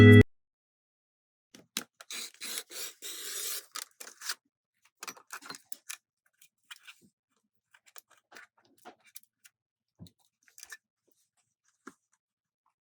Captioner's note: cutting page